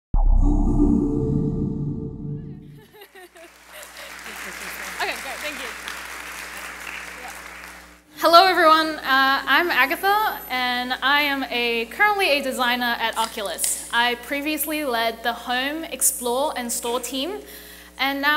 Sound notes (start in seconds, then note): 0.2 chimes; 2.8 laughing; 7.3 applauding